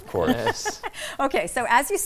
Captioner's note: laughing